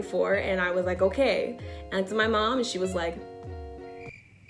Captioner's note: crickets